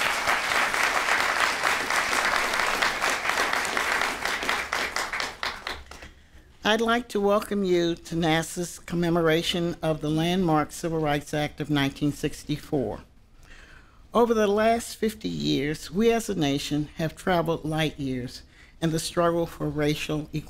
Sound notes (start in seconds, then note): 3.7 applause